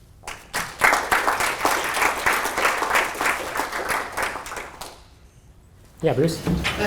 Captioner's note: applause